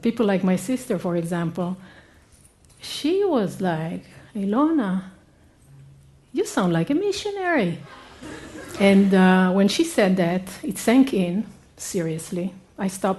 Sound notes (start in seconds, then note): 8.0 laughter